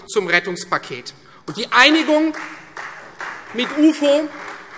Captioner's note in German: Beifall Freie Demokraten